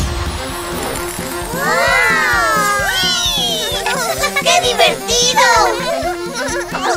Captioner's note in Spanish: Risas